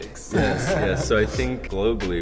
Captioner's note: Vixen chuckling